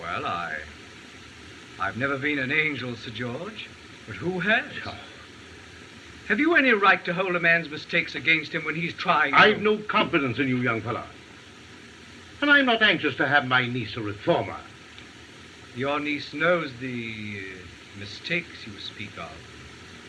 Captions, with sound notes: Well, I-I've never been an angel, Sir George... - but who has? - [Scoffs] Have you any right to hold a man's mistakes against him when he's trying- I have no confidence in you, young fella. And I’m not anxious to have my niece a reformer. Your niece knows the, uh, mistakes you speak of.